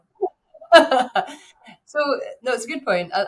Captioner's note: laughing